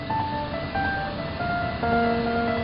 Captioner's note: none